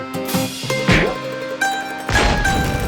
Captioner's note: hard thwack; light thwack; flame crackles